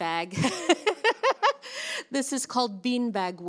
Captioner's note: speaker laughs